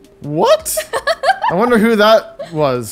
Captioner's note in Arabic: تضحك